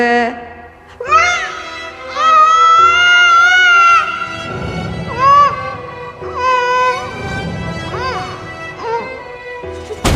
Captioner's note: screaming